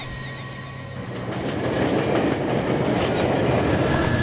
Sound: train passing

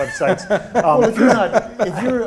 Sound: laughing

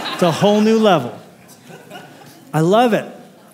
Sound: laughter

